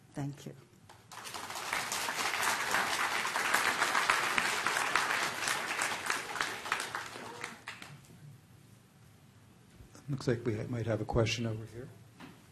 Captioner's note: applause